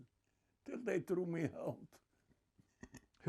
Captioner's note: laughing